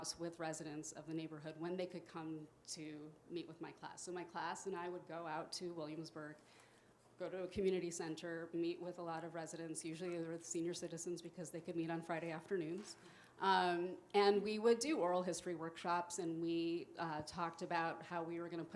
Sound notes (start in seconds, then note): none